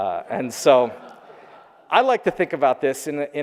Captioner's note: audience laughing